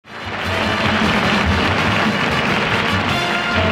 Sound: audience applause

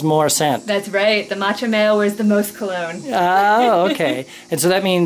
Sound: laugther

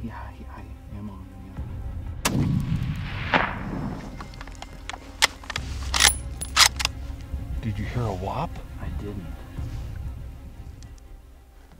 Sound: gunshot

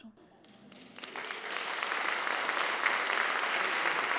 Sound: applauding

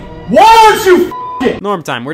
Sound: beep

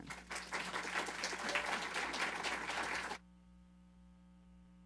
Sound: applause

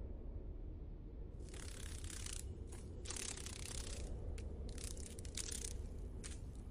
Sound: insect wings

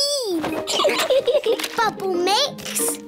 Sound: both laugh

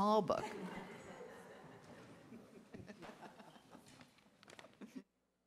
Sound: distant laughter

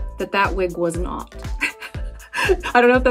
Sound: laughing

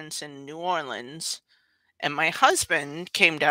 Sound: none

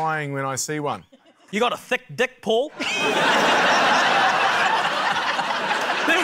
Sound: laughter

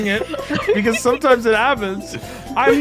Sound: laughter

